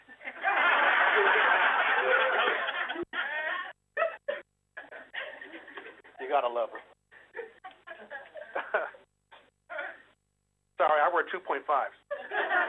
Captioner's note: laughter